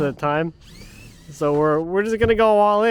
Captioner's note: drill whirring